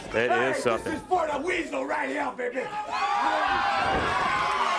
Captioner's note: crowd chatter